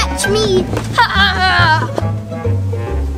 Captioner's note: laughs